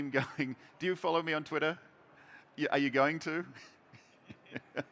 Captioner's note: chuckles